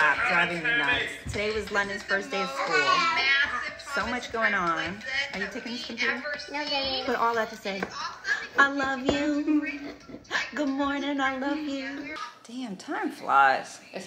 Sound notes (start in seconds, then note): 6.5 babbling